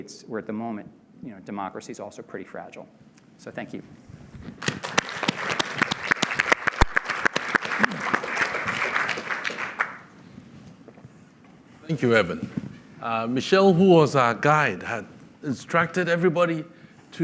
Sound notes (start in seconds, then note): 4.6 applause